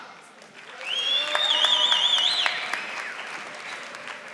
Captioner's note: audience applauding